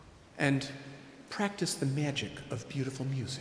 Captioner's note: none